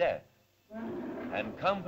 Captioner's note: mastodon bellows